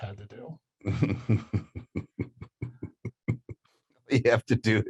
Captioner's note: laughing